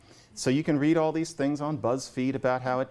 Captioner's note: none